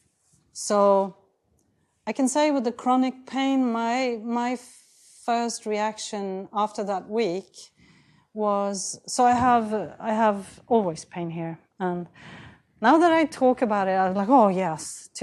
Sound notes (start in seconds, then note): none